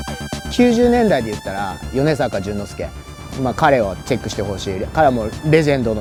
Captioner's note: speaking in foreign language